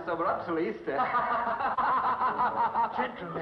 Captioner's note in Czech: Smích